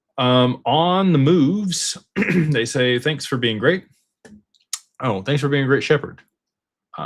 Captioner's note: clears throat